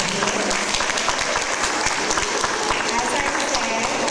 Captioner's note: audience applause